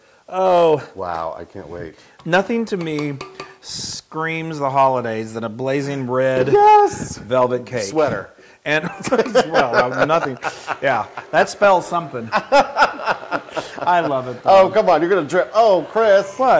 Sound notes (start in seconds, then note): 8.4 laugh